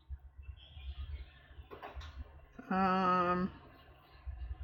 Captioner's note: laughs